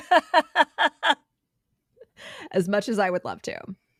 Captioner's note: laughing